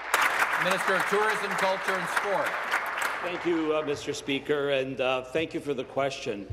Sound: applause

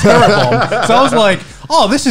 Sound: laughing loudly

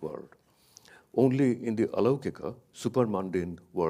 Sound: speaks in a foreign language

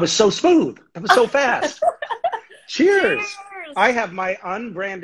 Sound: laughing

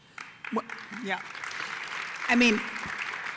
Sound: applause

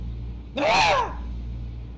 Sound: scream

